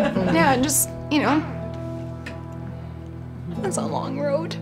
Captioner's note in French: rires